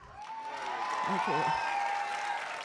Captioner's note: audience applauding and cheering